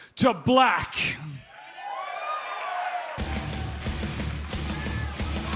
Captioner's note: crowd cheering